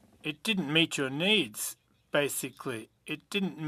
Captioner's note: speaking French